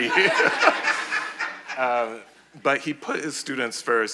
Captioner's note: audience laughing